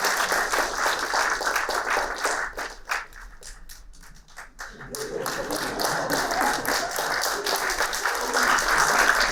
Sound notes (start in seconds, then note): 4.7 laughter